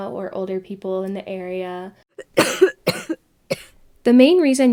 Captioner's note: coughing